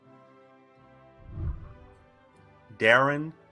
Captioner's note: whooshing